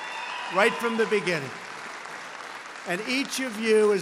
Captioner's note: applause